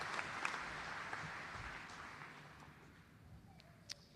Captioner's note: applause